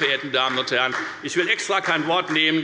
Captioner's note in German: Beifall